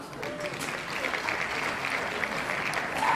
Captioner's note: clapping